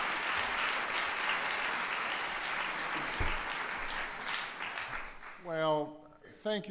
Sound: applause

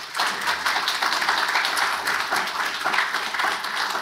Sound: audience applauds

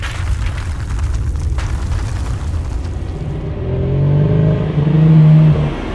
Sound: paper rustling; house rumbling; ominous music

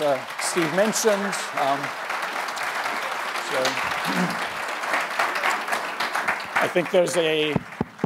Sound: applause and Cheers

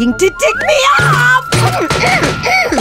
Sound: grunting

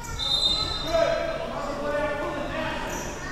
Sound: whistle

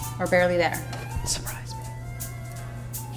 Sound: whispers

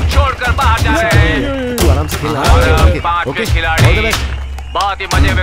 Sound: applause

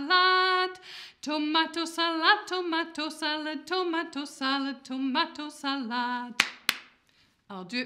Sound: clap, clap

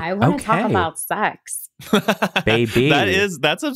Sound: laughing

